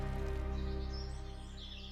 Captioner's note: birds chirping